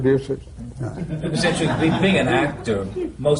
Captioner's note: laughter